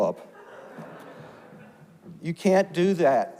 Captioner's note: audience laughs